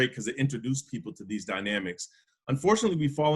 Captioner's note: none